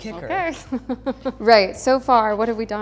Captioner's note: laughs